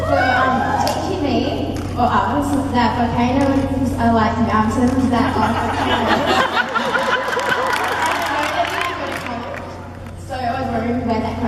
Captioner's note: crowd and Jared laughs